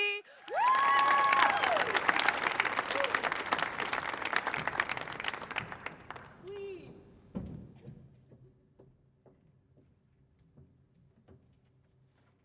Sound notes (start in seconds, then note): 0.2 audience applauding; 5.0 footsteps Pounding